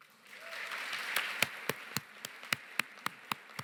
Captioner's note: applause